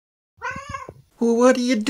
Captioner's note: cat noises